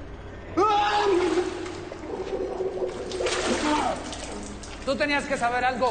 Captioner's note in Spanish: Gritos